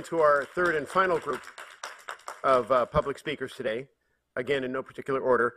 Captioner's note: applause